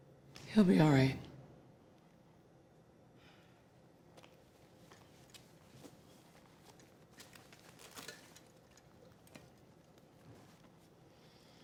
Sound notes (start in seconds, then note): none